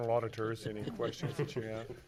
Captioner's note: laughing